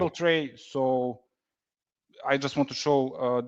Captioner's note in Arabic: none